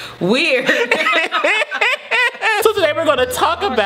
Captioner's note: laughing; they still laughing